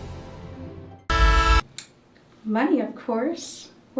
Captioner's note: horn honks